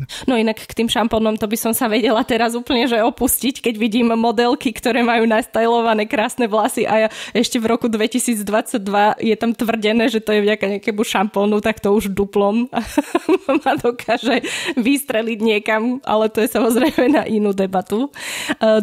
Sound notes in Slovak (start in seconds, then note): 12.7 smiech